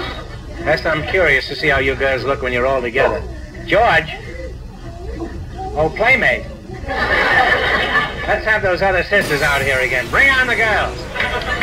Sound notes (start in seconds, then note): 6.7 audience laughs; 11.3 audience applauds